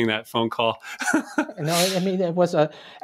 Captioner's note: chuckle